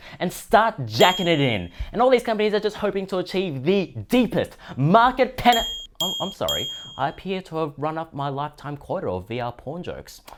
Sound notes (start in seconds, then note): 1.0 ding; 5.5 ding ding